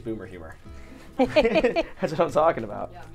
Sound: laughing

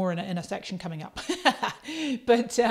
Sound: laughs

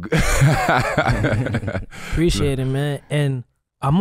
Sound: laughs

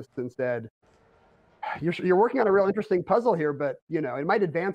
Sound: sighs

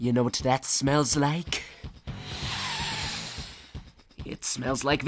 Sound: sniffs intensely

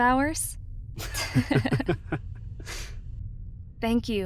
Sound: chuckle

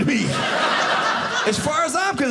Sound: audience laughing

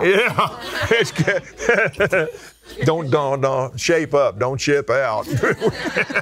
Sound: laughs

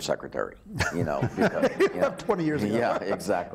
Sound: laughing

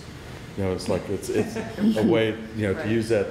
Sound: laughter

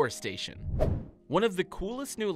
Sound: playful whoosh

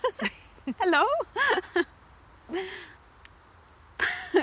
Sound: both laugh

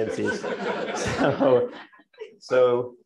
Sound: laughter

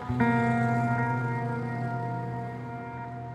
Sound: cars driving outside

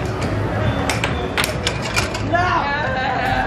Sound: clanking puck

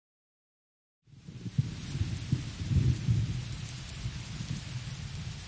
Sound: thunder rumbles

